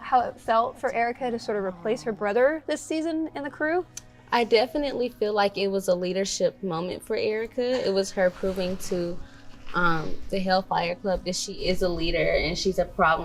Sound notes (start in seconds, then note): none